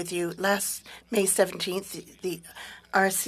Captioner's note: speaking French